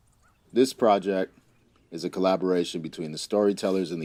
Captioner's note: birds chirping